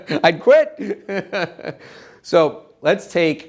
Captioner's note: laughs